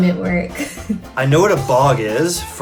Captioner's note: laughs